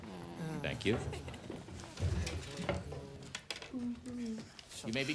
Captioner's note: students groan